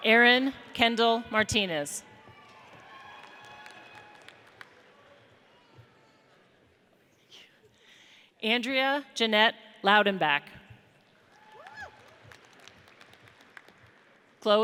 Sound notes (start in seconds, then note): 2.2 audience cheers; 11.2 audience applauds